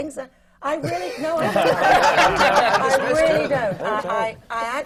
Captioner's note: laughter